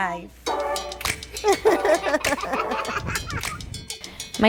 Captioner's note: giggling